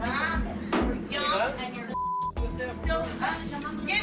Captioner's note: speaking Spanish